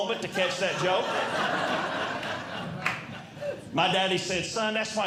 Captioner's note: audience Laughing